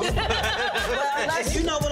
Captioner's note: laughter